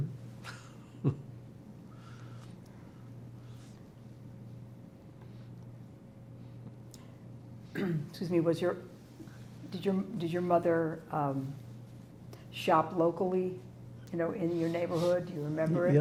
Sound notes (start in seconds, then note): 0.3 laughing; 7.7 clears throat; 12.5 wiping nose